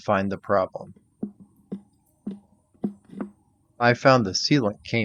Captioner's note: tool tapping